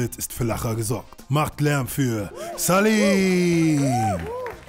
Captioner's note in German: Jubellaute; Klatschen